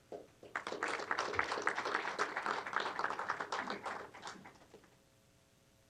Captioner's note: applause